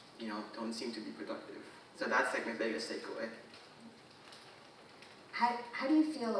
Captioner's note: none